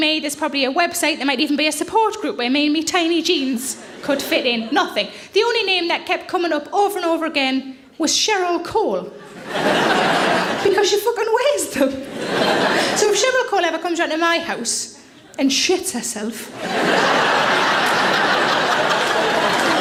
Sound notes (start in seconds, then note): 9.2 audience laughing; 16.5 audience laughing